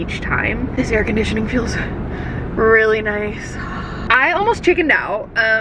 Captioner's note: sighs